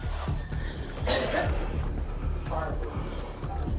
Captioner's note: officer coughing